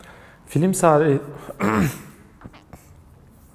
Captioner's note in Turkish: Öğürme !